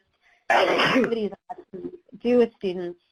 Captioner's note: sneezing drowns out speaker